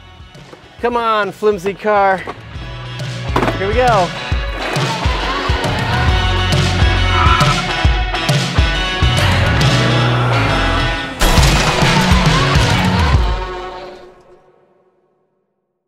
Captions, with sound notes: Come on flimsy car. (drops car on ground) Here we go! (upbeat music)